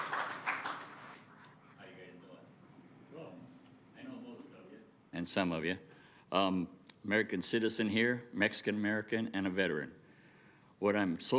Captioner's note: applause